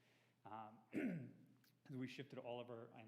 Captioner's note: clears throat